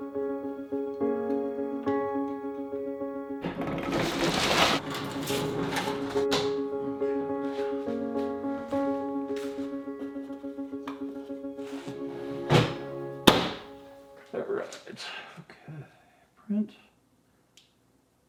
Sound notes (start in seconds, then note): 1.7 calm music continues; 3.4 tables scrape; 13.2 printer thumps